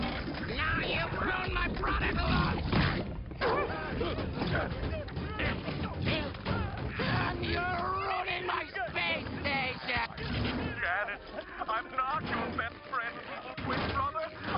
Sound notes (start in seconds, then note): 3.4 yelping; 10.7 TV audio